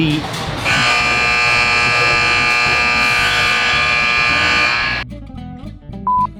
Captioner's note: loud buzzer sound